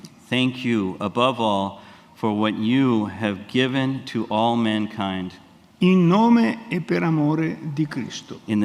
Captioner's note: speaks in Italian; speaks in Italian